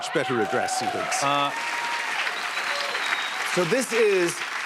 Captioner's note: cheers and applause